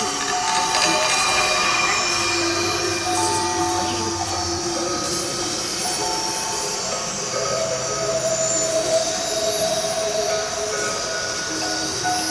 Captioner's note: hissing